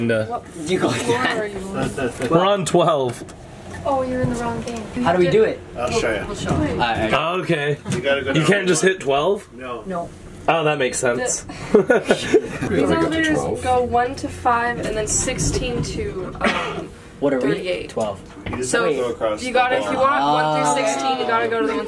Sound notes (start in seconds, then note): 11.6 laughs